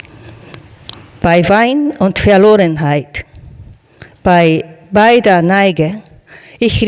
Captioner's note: speaking in foreign language